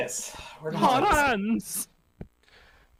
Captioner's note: Hans voice